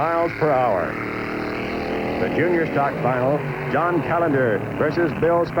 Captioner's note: engine revving